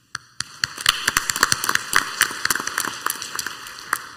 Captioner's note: clapping